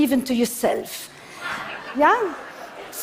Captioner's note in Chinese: Laughter; 笑聲